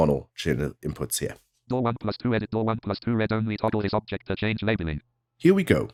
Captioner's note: automated voice